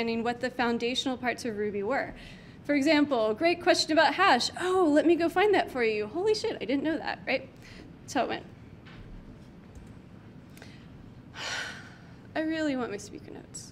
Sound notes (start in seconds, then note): 9.2 clicks mouse button; 11.3 sighs